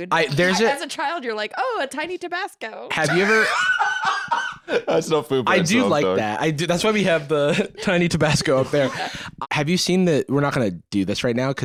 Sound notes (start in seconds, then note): 2.9 laughs